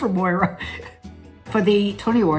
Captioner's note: Catharine laughs